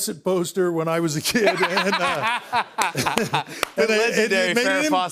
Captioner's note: laughs